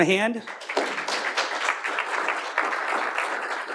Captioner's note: clapping